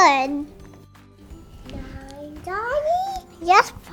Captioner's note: toddler chattering